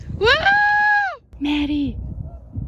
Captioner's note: whispers